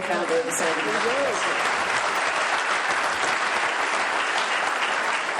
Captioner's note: applause